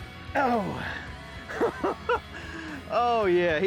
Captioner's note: laughter